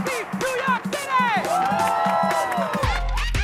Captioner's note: cheering, applause